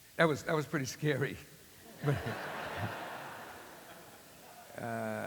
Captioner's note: laughter